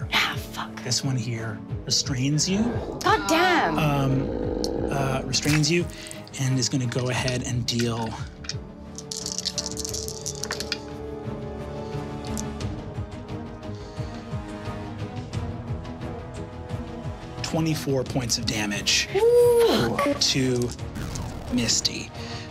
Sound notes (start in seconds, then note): 2.6 growling; 8.9 dice clattering; 11.5 suspenseful music